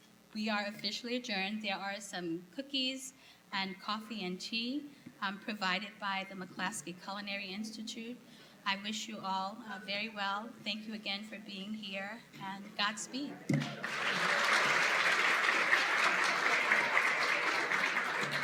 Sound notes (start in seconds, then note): 13.6 applause